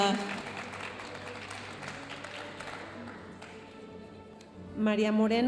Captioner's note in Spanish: aplausos de la audiencia